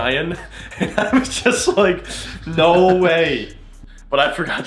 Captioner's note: laughs